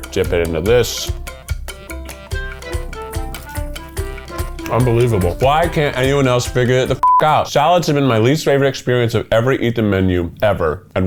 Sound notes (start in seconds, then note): 2.3 upbeat music continues; 7.0 beep